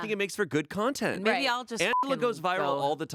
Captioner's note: beep